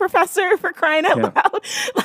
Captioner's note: laughs